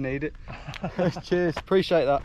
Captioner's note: laughs